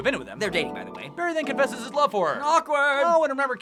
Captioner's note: singsong